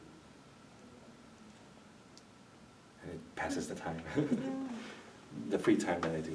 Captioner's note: laughs